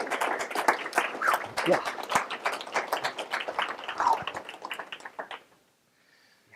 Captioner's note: applause